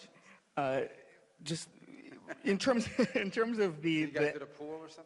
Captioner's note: laughter